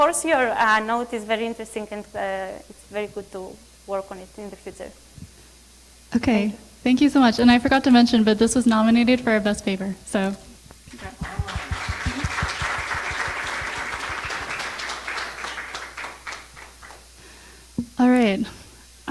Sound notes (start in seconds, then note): 11.0 audience applauds; 11.0 starts clapping